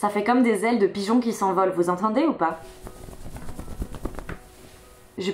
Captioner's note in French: bruit des manhces qui font flop flop